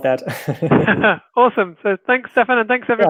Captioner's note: laughing